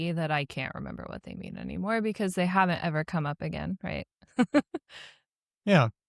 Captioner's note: laughs